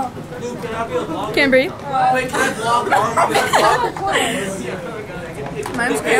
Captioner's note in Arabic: يضحك